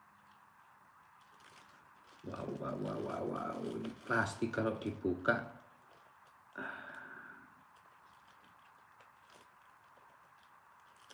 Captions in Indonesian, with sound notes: Wow, wow, wow, wow, wow. Ini plastik kalau dibuka [menghela napas]